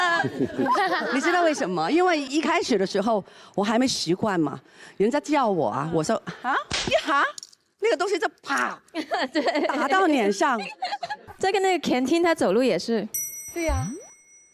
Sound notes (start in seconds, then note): 6.6 slap